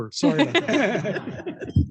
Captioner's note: laughing